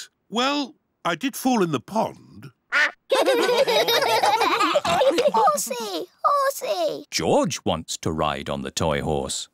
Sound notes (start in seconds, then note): 3.0 all laugh